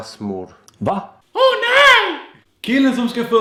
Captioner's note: Monthy Python voice